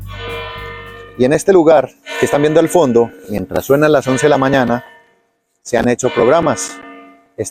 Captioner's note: bells indicating